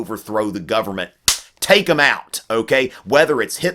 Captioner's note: slaps